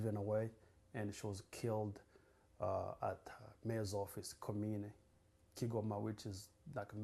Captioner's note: non-english